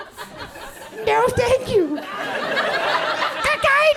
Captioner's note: audience chuckles